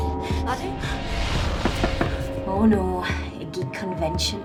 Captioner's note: knock on door